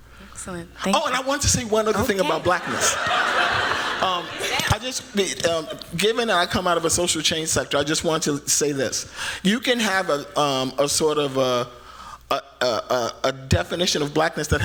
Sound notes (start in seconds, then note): 1.0 excitedly; 2.3 laughter